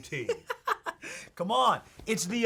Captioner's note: laughs